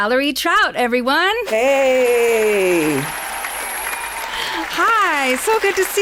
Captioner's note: applause